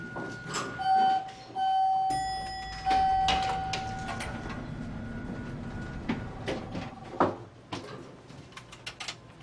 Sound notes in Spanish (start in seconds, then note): 1.5 Sonido del elevador